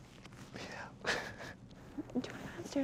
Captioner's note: laughs